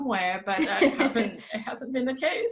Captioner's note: laughs